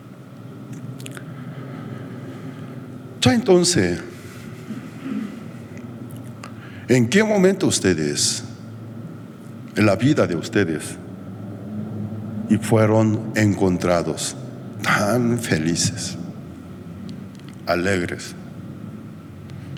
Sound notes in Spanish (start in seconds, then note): 4.8 carraspeo